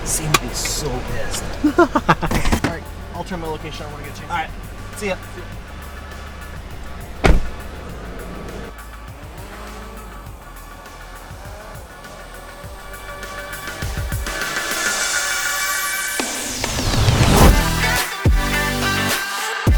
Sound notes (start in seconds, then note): 1.3 laughs; 9.8 drone whirring; 16.5 upbeat music